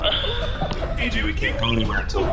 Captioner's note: laughter